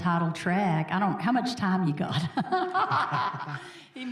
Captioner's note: laughing